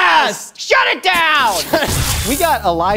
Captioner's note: laser sound